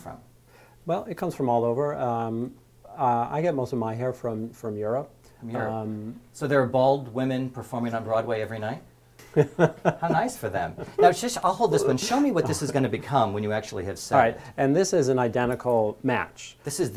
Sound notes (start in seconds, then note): 9.3 laugh